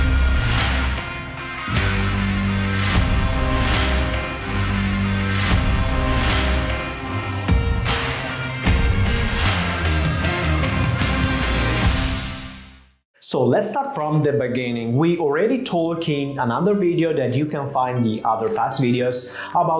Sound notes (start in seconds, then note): 3.3 upbeat music continues; 11.5 transition swooshing